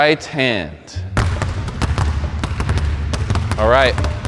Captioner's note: basketballs dribbling